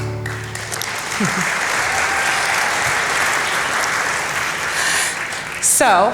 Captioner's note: applause